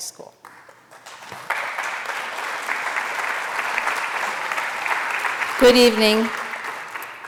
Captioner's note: applause